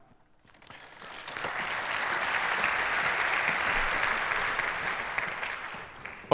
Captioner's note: applause